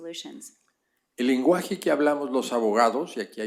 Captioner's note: spanish